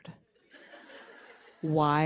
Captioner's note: audience laughing